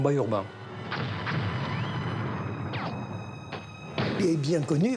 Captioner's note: guns firing